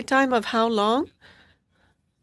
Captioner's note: speaking French